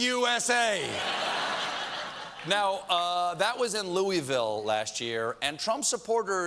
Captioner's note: laughter